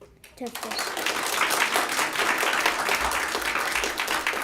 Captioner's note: applause